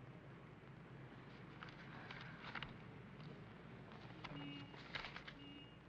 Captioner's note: papers rustle